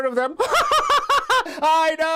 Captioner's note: laughs